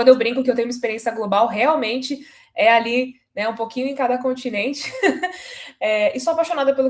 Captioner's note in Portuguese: risadas